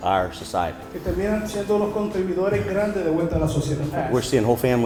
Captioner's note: interpreter speaking in Spanish